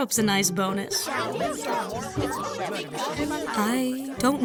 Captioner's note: Uninvitationals shout and argue